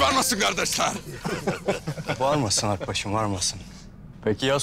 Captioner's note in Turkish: Gülme sesi